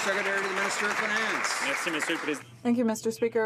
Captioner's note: some Applause